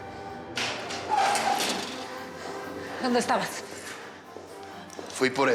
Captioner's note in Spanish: ruido♪ al abrir la puerta